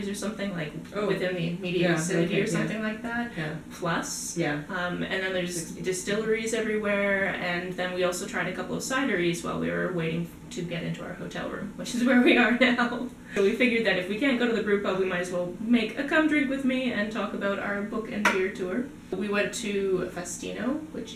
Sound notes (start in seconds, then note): 12.6 laughter